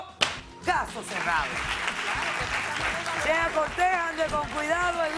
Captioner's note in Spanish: Aplausos